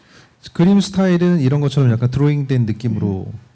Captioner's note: speaking korean